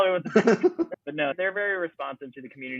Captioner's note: laughter